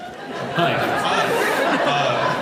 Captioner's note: laughs